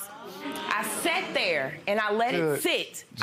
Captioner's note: audience oohs